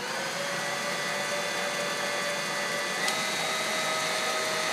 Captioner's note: electric beater whirrs